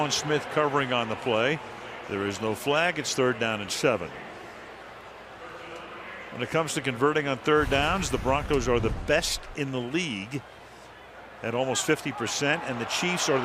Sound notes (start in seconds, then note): 6.0 pa announcement